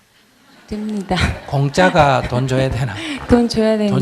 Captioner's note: audience Laughter; questioner Laughter